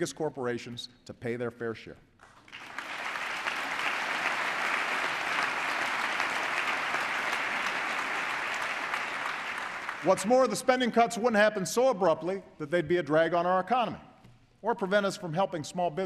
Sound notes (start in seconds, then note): 2.2 applause